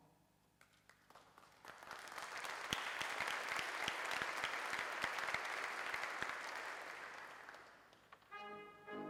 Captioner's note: applause